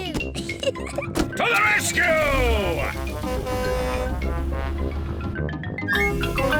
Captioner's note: horn blares